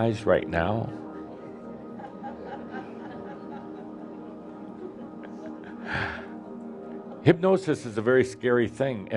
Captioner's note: some giggles as teasingly waves his hands